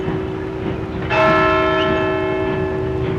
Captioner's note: clock strikes